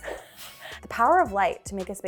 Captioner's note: laughing